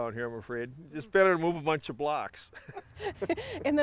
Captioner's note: chuckles; laughs